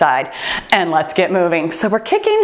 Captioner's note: timer beeps